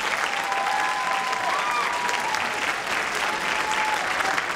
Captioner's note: applause and cheering